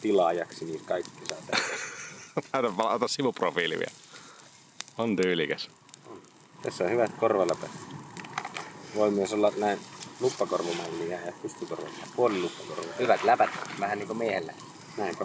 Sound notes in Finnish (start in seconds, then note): 1.5 naurua